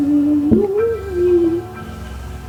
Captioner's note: tapping